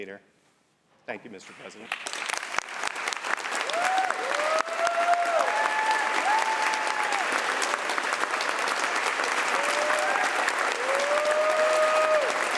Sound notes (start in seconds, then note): 1.7 applause